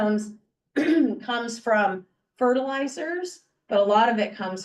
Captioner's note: clears throat